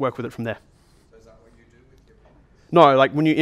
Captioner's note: voiceover